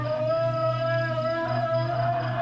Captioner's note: rumbling